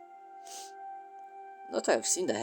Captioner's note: sniff